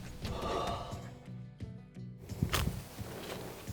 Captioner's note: exhales